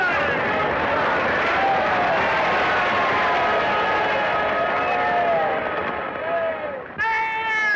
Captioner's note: cheering